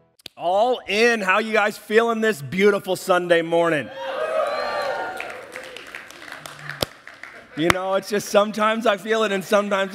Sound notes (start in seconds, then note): 3.8 audience cheers